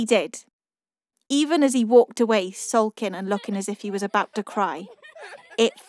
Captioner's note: igirls giggling